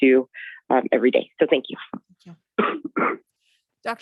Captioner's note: coughs